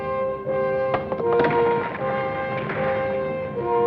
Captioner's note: rock clacks